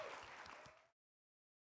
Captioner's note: applause